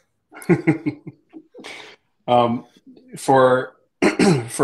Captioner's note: laughter